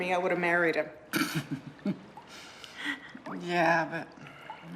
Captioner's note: laughs